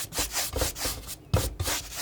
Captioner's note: scratching